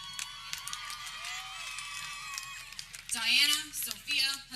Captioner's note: people cheering